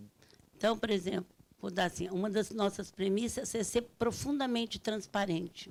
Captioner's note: speaking Portuguese